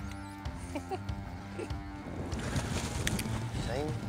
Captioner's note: laughs